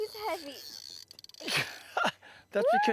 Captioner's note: drag Noise; laughter